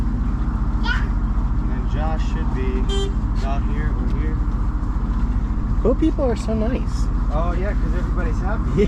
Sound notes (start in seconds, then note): 2.8 another boat beeps